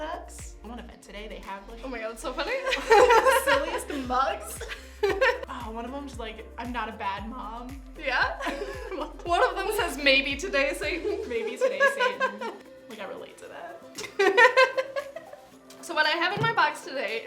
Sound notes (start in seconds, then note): 4.5 laughs; 14.0 both laugh